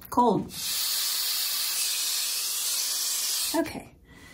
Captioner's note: sped up hair dryer sound